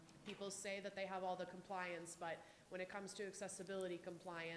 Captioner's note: none